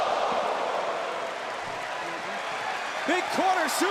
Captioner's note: crowd cheering